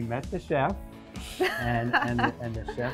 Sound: laughing

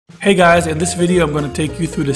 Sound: voiceover

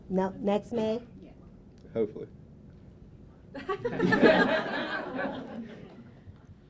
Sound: laughter

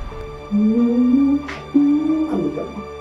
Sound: mysterious music continues; Erica humming; mysterious music continues

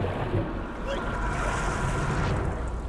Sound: grunts

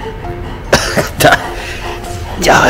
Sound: laughs

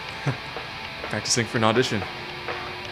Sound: normal voice

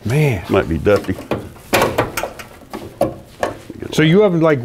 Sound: truck hood opening

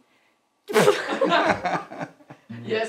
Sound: laughs

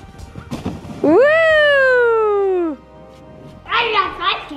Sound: cheering

